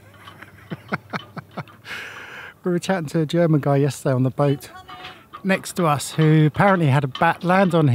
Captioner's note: laughter